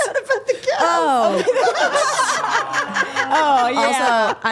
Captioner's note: group laughing